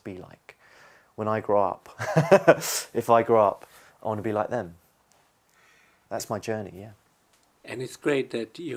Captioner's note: laughs